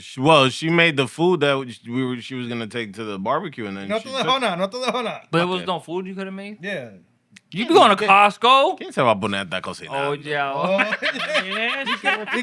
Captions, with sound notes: Well, she made the food that she was going to take to the barbecue. And then she took-- (Speaking Spanish) But it was no food, you could've made. Yeah. You could go to Costco. Can't tell about Bonette, that goes here. Oh, yeah. Oh, yeah.